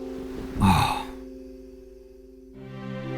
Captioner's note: Varlahm sighs; somber orchestral music